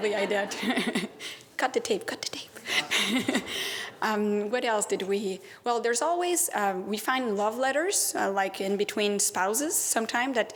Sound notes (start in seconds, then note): 3.5 laughter